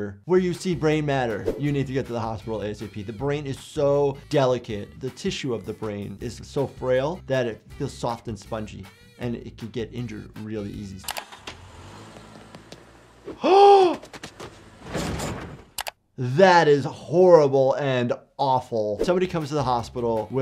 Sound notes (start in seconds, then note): 11.1 car engine revving; 13.5 gasps